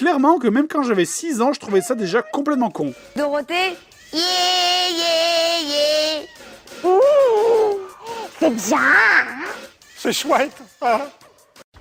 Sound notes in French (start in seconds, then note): 6.6 voix débile